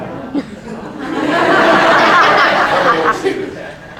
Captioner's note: raucous laughter breaks out